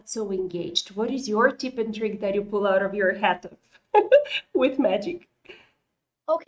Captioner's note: laughter